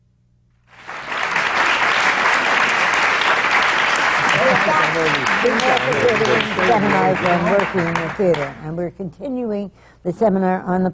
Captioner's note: applause